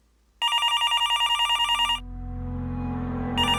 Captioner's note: phone ringing; ominous music